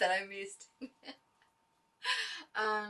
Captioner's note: giggles